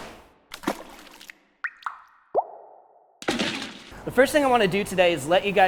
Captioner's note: sauce splashing and dripping